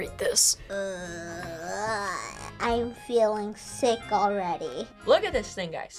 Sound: groans

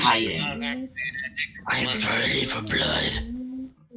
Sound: general humming and threats

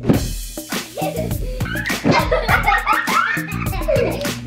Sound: laughing; funky upbeat music

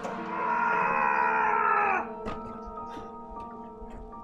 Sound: George screams

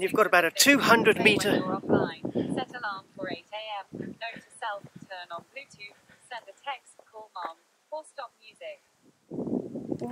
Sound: background noise from a phone

